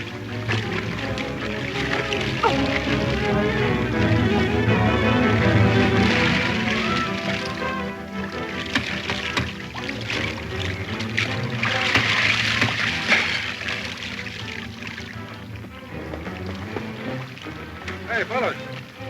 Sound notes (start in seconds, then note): 2.4 Mary grunting